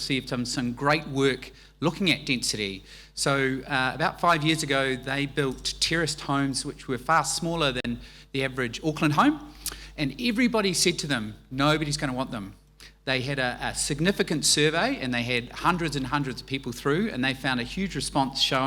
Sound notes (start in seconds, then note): none